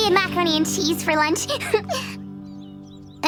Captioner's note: giggles